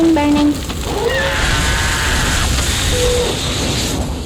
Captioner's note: scream